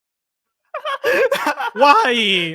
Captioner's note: Laughing in Pio